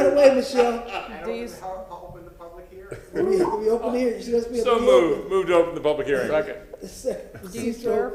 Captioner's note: laughter